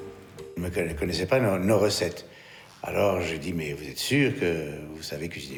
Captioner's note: speaking in foreign language